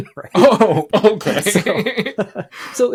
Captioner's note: laughs